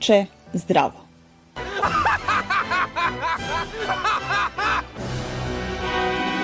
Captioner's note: Vicini laughs